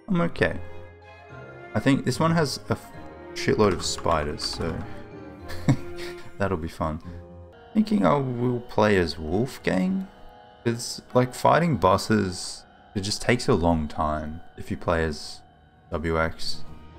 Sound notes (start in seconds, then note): 5.4 laughs